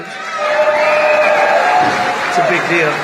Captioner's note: applause